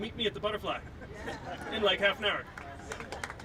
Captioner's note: crowd agreeing; applauding